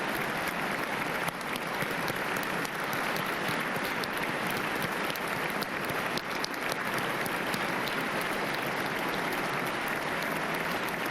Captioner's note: applause